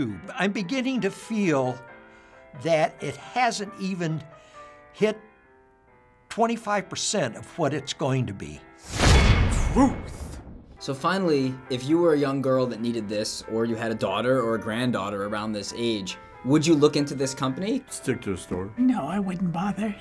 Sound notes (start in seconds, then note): 9.0 clang